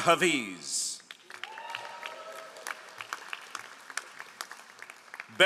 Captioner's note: all applauding